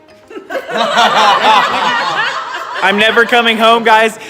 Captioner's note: laughs